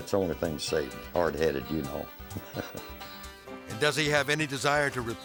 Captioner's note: laughs